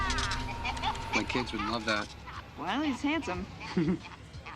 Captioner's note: laughs